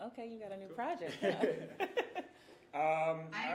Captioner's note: hosts chuckling